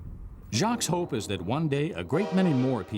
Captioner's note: voiceover